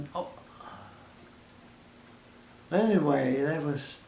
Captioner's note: silence